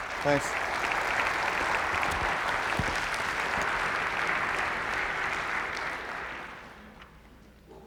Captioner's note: applause